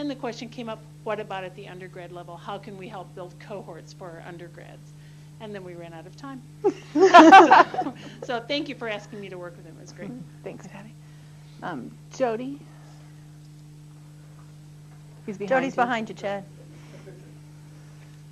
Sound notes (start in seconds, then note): 6.6 laughter